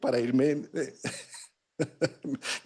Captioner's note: laughs